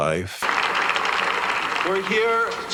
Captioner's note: audience applauding